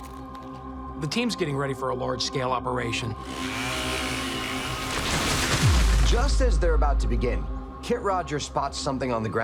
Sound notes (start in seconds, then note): 3.1 saw whirring; 3.3 tree cracking